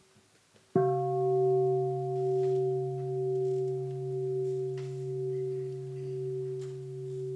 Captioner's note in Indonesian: Bunyi genta